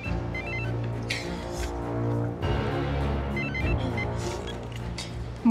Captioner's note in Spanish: suena el celular